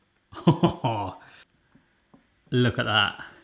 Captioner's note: laughs